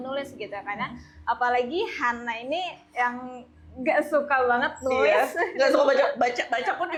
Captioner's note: laugh